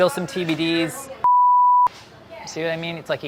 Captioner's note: beeping